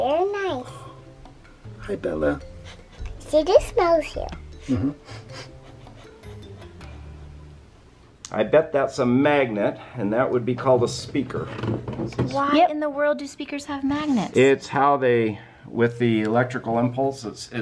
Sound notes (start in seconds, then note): 4.7 sniffs